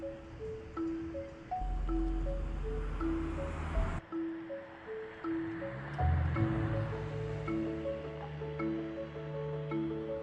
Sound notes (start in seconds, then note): 1.5 traffic sounds; 7.7 traffic sounds